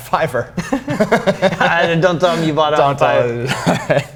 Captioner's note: laughs